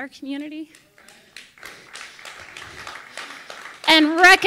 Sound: audience applauding

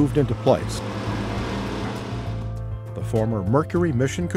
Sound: natural sound of equipment cutting into the side of the building

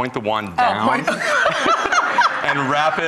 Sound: laughter

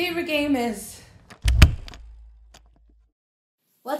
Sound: door closing

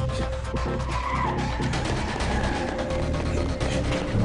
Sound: tires squeal

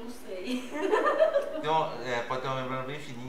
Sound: laughs

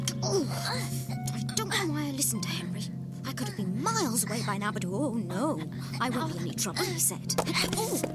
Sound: mumbling to herself

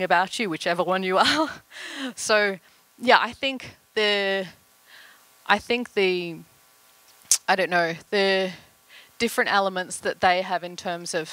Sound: laughter

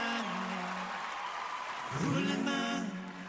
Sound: cheering, applause

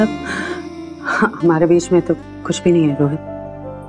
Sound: Ananya exhales

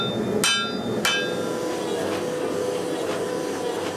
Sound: machine whirring

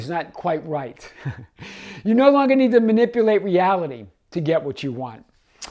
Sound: chuckling

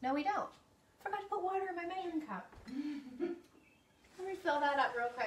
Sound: chuckles

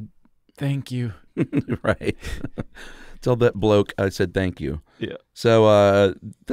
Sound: chuckling

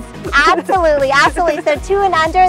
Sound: chuckles

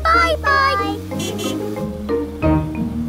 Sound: horn honking

